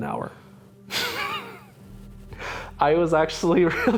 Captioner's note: laughter